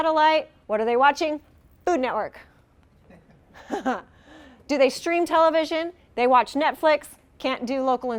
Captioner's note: haha